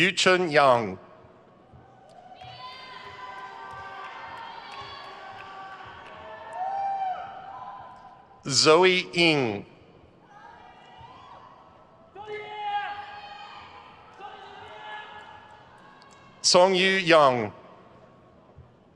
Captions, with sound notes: Yuchen Yang. (crowd cheers) Ziyi Ying. (crowd cheers) Congyu Yang.